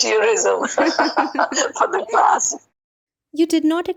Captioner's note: both laughing hysterically